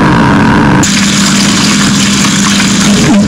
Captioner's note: sizzling